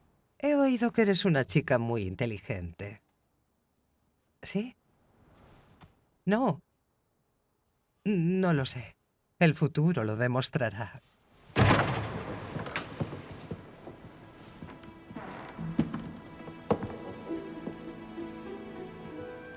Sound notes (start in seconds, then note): 11.6 door clattering; 12.0 gentle dramatic music